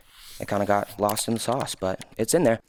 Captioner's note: computer keys clicking